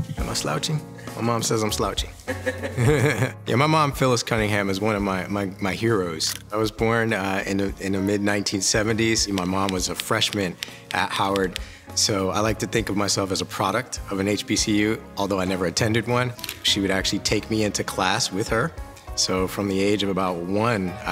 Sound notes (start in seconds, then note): 2.2 laughs; 2.3 chuckles